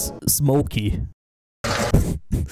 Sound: brief machinery abuse

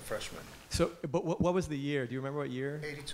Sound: voiceover

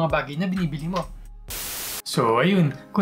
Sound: static sound

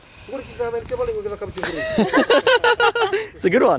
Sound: people laughing

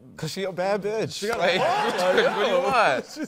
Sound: laughter

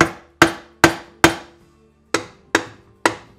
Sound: hammering

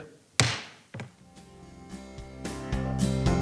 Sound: gavel banging; upbeat music

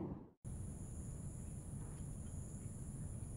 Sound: crickets chirping

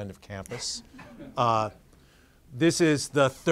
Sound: audience laughing lightly

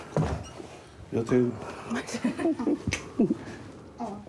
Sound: chuckles

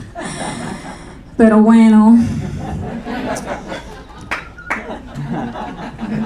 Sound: speaking in foreign language

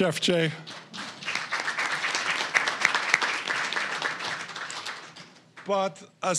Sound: applause

